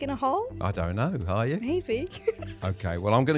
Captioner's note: laughing; bell dinging